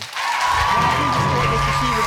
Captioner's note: audience applauding